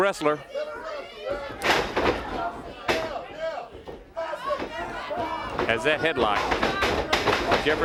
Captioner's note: crowd cheering